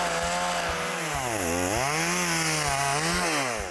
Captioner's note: motor revs and purrs